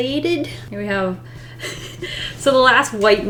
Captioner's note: laughs